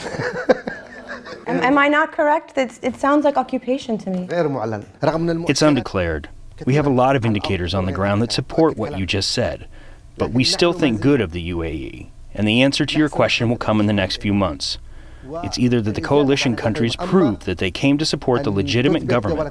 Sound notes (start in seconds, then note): 0.0 laughter; 5.3 through translator